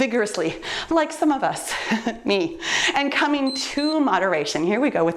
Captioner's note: timer beeps